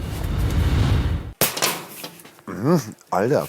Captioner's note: clack